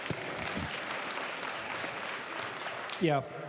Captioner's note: applause